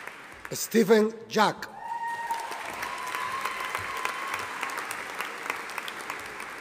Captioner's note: audience applauding